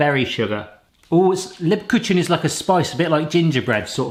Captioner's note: speaking German